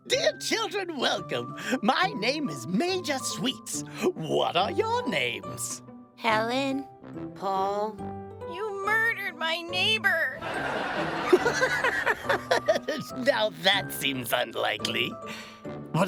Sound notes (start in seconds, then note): 10.4 audience laughing; 10.6 Major Sweets laughing